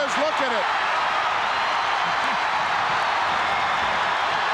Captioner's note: audience cheering